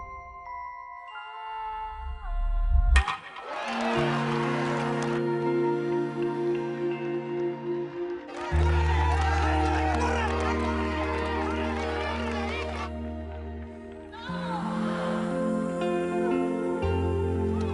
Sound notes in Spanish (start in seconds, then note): 5.1 Aplausos; 10.0 Gritan al unísono